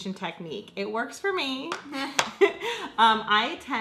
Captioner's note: laughs